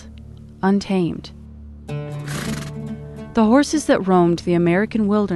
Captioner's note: horse snorts